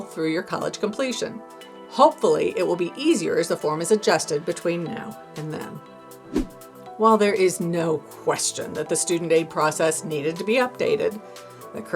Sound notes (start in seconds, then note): 6.2 air whooshing